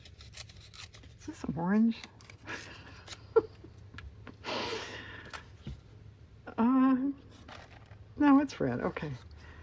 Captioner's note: laughs